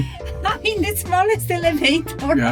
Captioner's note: laugh